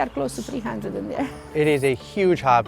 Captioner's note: chuckles